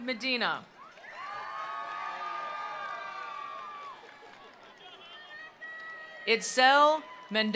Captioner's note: attendees cheering; attendees applauding